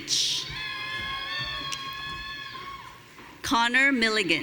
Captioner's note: audience cheering